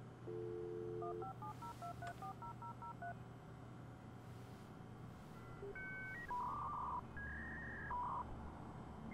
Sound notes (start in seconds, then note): 0.9 phone dialing; 5.2 modem buzzing